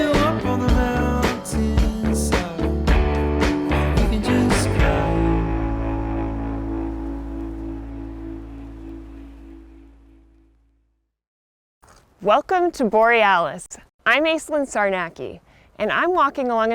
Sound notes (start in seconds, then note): 5.7 birds calling; 5.7 waves crashing